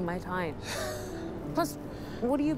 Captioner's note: laughing